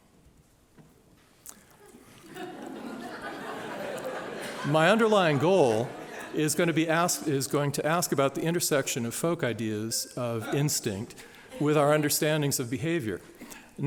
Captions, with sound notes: (laughter) My underlying goal is going to ask about the intersection of folk ideas of instinct with our understandings of behavior.